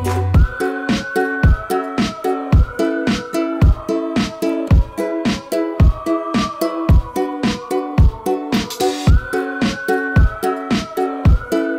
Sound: whistling

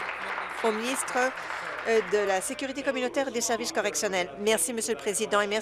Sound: applause

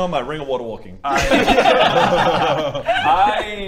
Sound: laughs

